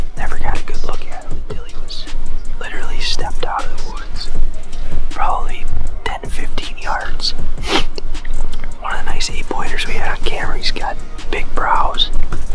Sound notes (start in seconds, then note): 7.6 sniffs